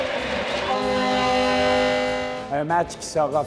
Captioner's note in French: sirène de jeu